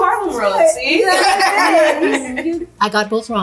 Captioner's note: laughing